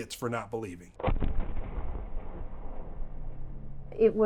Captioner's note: thunderous booming